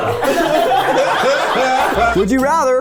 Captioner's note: everyone laughs